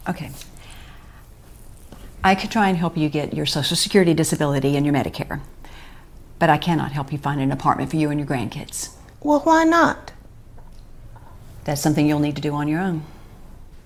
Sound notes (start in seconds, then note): none